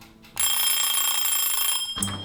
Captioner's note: dings